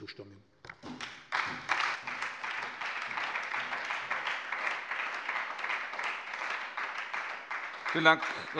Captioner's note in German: Beifall bei der SPD, der LINKEN und der FDP